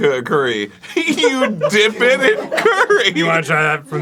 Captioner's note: arin, slowly